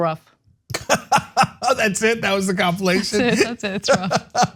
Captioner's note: laugh